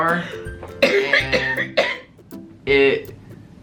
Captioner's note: coughing